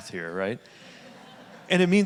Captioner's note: audience laughing